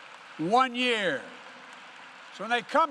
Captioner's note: applause